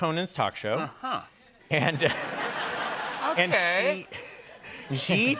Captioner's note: laughter